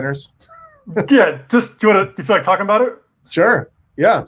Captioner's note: murmurs